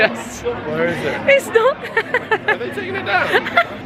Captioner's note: laughing